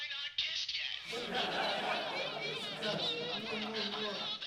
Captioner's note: guys laughing